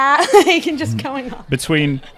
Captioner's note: laughing